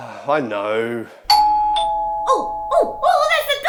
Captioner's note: doorbell rings